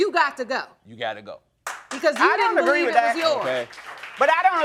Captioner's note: audience applauding